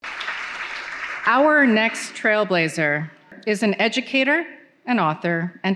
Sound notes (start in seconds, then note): 0.0 audience applauding